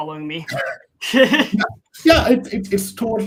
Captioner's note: both chuckling